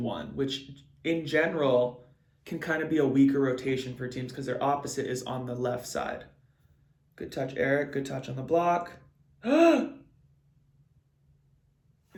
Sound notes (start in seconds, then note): 9.4 gasps